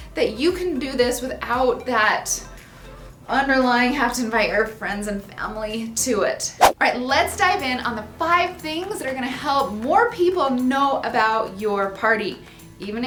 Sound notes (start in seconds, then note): 6.6 whoosh